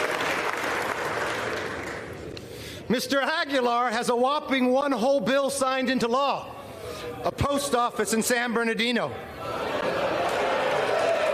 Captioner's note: applause